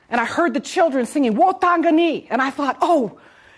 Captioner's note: speaks in foreign language